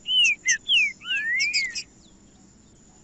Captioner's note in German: trinca ferro cantando